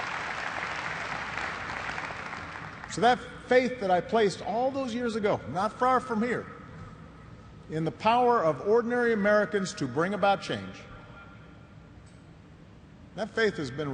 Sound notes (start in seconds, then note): 0.0 applause